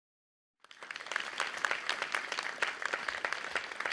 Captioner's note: audience applauding